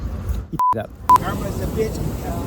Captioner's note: beep